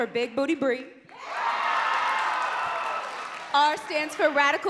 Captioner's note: crowd cheering and clapping